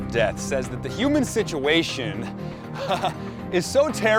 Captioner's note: laughs